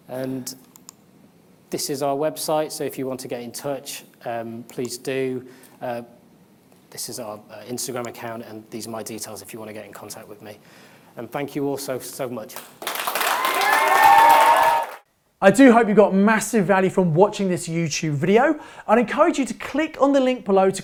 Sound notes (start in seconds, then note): 12.8 audience applauds and cheers